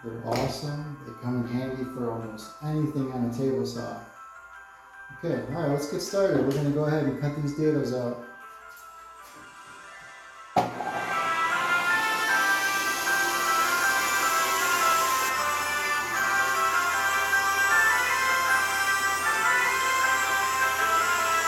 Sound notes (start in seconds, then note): 11.7 table saw buzzing; 17.7 christmas music playing